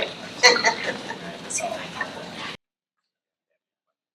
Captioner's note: trustee laughs